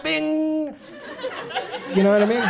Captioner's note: audience laughs